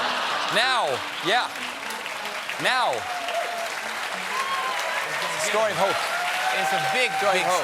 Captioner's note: laughter; piano riff